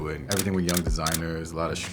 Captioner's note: camera clicks